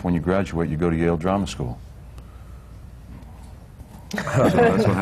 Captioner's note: laughter